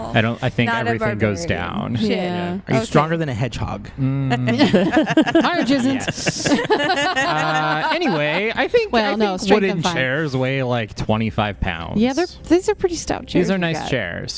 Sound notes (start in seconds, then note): 4.2 laughter; 7.2 more laughter